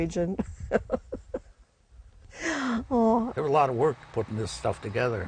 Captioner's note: laughs